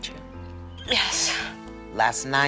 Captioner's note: crying